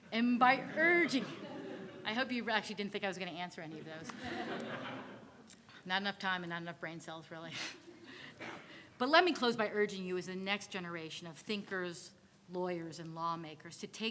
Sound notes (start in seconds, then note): 0.5 audience laughing; 4.0 audience laughing; 8.6 laughs